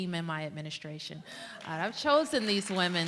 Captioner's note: applause